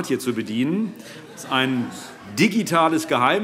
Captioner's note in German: Heiterkeit